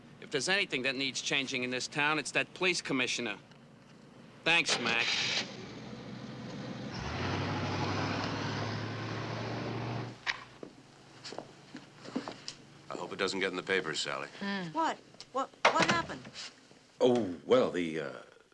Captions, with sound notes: if there's anything that needs changing in this town, it's that police commissioner. Thanks, Mac. [engine starts] [taxi driving away] I hope it doesn't get in the papers, Sally. - Hmm. - What? What happened? Oh, well, the, uh,